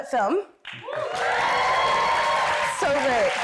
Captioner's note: audience applauding